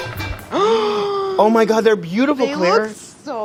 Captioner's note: gasps